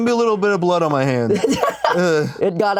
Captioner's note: laughs